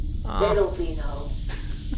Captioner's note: sizzling noise